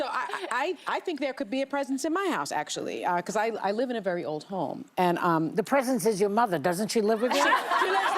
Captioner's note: laughter